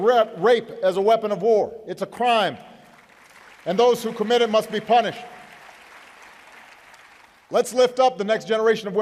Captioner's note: applause